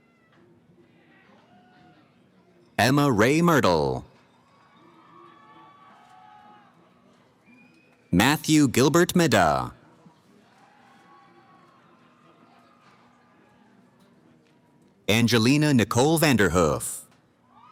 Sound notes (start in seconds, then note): 4.4 cheering; 10.4 cheering